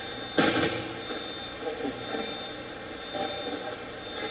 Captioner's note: Tony mumbles